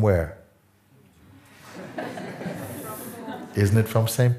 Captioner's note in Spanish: risas